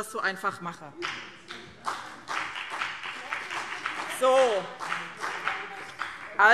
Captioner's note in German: Beifall BÜNDNIS 90/DIE GRÜNEN